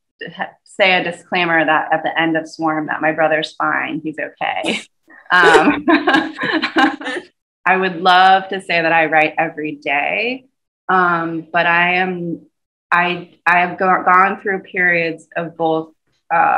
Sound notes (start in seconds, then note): 5.3 laughter